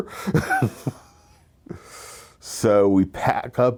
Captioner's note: laughs